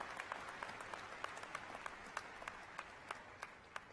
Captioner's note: applause